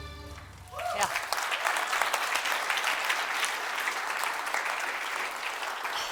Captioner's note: applause